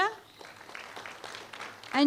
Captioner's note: applause